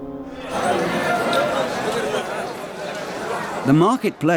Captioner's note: people chattering